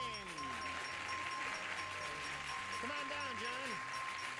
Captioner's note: cheering and applause